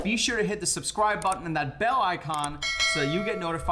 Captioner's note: bell chimes